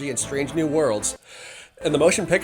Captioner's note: deep breath